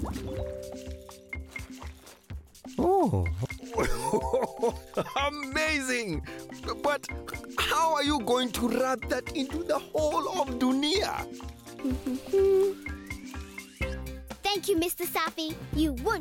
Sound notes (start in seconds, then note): 1.4 bubbling; 3.6 chuckling